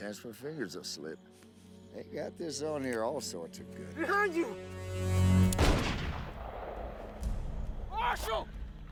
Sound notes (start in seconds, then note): 5.5 gun shoots